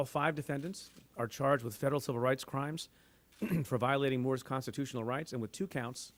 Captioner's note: clears throat